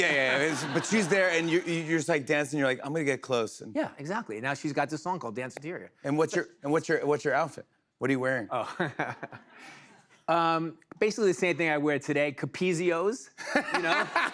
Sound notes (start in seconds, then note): 9.4 laughs; 13.4 laughter